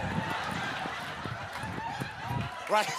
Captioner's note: laughing